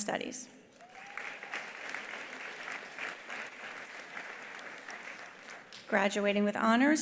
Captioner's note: attendees applauding; attendee cheering